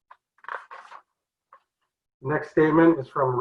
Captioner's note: flipping pages